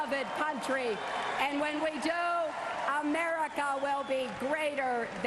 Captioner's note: cheers and applause